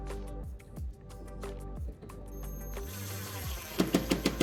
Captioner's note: drill whirring